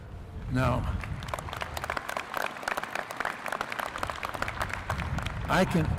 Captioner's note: applause